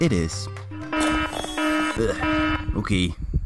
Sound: alarm clock

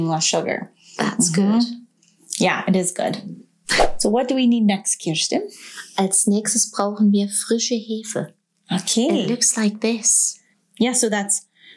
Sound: speaking German

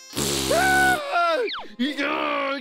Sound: screams; growls

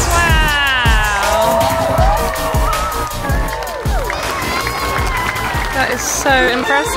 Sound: crowd cheers

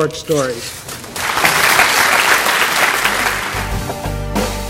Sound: audience applause

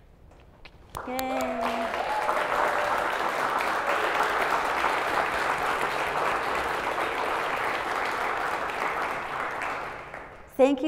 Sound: applause

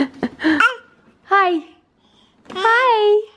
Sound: laughs; baby babbles

